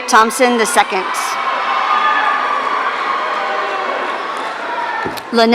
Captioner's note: audience cheering